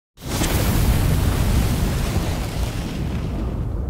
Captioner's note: fire sizzling